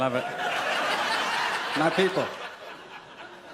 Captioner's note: audience laughs